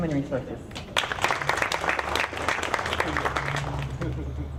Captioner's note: audience clapping